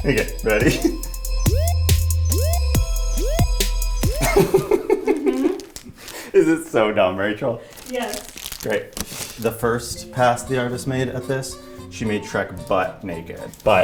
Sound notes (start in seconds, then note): 1.7 energetic music; 4.1 giggling